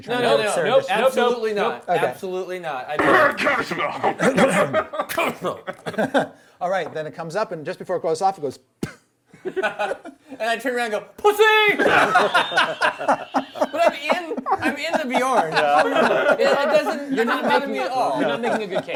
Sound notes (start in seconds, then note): 4.7 coughing; 11.8 laughing